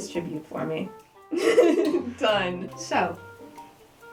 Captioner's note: laughing